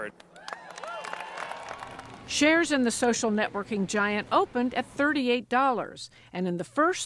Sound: cheering and applause

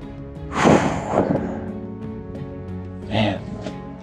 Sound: exhales heavily

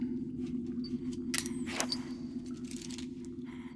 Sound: metal clinking; light dramatic music

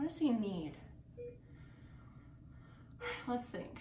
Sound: beeping

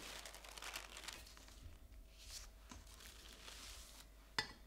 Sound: rustling

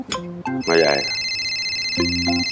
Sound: mobile ringing

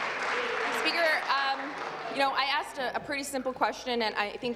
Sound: applause

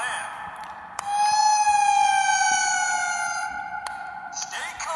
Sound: siren wails

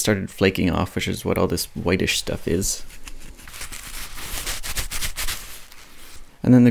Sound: unpleasant dry scrunching sounds

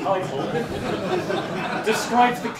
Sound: laughter

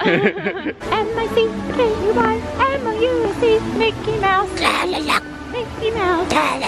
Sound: Donald Duck Impression

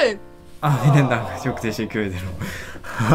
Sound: German & Turkish

